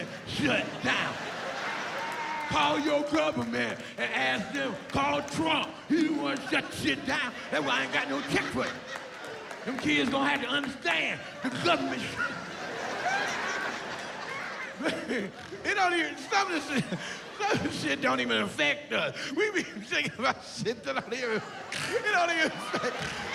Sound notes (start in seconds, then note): 15.9 laughs